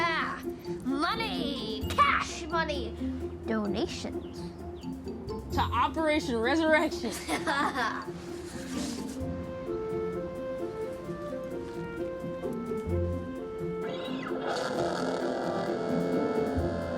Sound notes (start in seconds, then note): 0.0 upbeat music; 6.7 boys laughing; 14.0 radio crackling